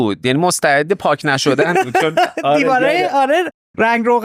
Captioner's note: laughs